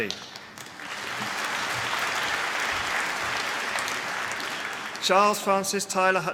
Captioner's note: applause